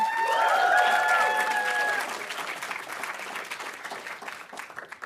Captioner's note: audience applauding